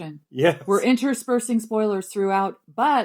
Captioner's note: laughs